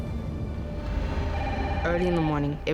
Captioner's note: phone rings